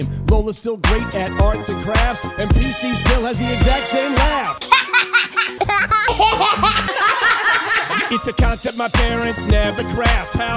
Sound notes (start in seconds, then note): 4.5 laughing